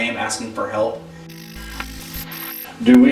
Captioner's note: static fizzing